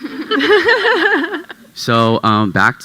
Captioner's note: panel chuckling